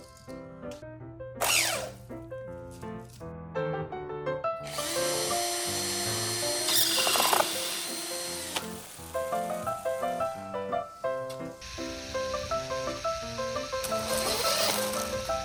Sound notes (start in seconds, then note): 1.5 ziiiiiiip; 4.6 drill speed up; 6.6 aggressive squealing; 13.6 drill noises